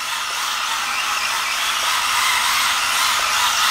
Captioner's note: motor whirs